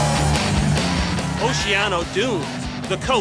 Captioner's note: cheering